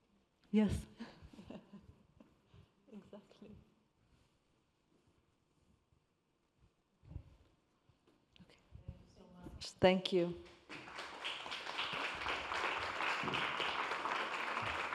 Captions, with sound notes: Yes. (chuckles) Exactly. - Okay. Thank you so much. Thank you. (attendees clapping)